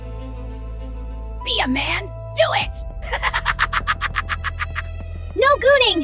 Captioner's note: laughs maniacally